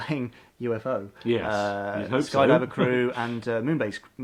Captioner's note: laughs